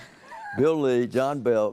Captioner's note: chuckles